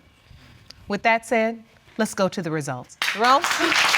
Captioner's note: applause